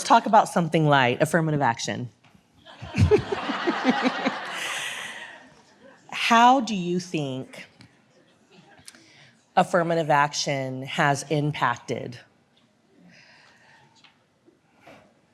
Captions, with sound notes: Let's talk about something light, affirmative action. (audience laughs) How do you think affirmative action has impacted